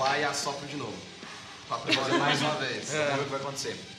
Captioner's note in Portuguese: Risos